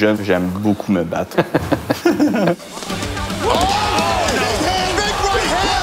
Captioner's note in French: rires